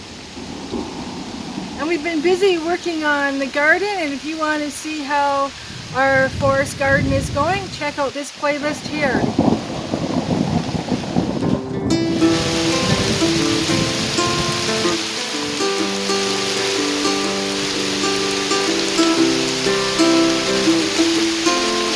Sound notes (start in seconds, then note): 11.1 thunder; 13.1 thunder and rain